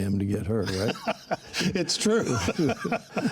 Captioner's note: laughing